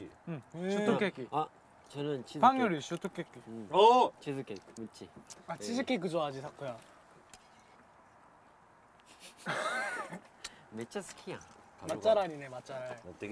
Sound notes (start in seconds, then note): 9.0 laughing